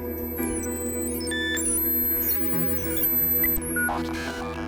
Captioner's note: futuristic beeping